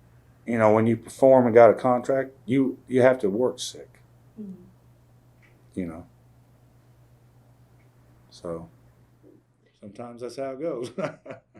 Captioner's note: laughs